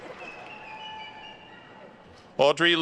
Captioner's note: attendees whistling